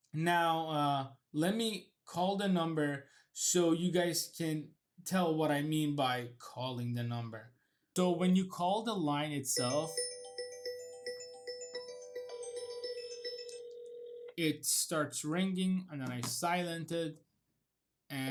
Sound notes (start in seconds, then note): 9.9 phone ringing